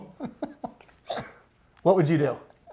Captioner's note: laughs